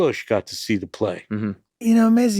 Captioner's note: Glenn grunts affirmatively